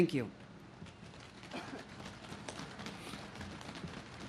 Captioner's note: audience claps